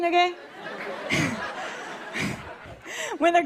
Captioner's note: light laughter